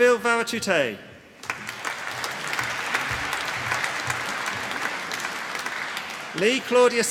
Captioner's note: applause